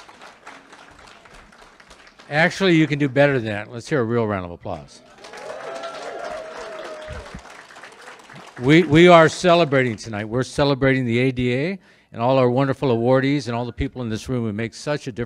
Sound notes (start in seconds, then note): 0.0 clapping; 4.7 loader clapping and yelling